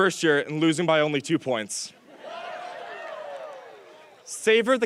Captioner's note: audience cheers